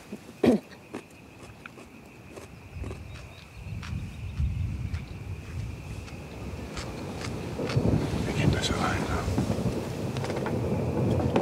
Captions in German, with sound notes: * Sie räuspert sich. * * She clears her throat. * * fernes Donnern * *distant thunder* * Windrauschen * *wind noise* Wir gehen besser rein. We better go in. * Donnergrollen * * rolls of thunder *